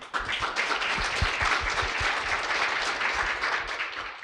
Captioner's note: audience clapping